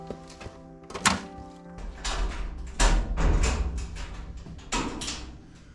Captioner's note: door opens